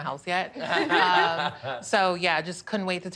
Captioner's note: laughter